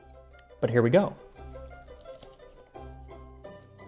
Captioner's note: chomp